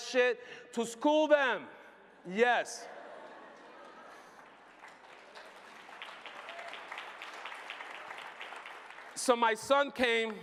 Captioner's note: applause